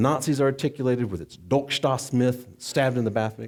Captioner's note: speaking German